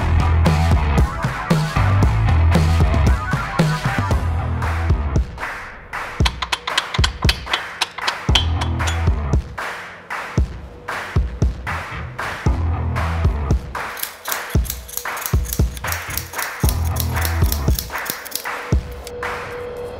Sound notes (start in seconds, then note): 6.2 hammer banging; 13.9 tool clicking